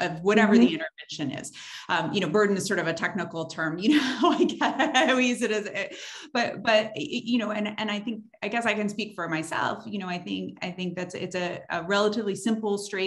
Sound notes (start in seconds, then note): 5.5 laughs